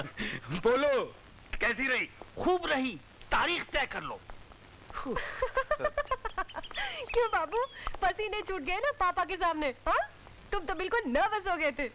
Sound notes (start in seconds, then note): 5.0 Laughs